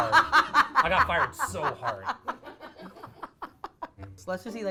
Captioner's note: laughing